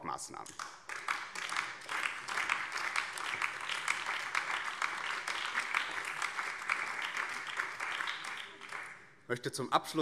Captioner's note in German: Beifall BÜNDNIS 90/DIE GRÜNEN